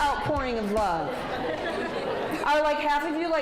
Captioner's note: audience laughs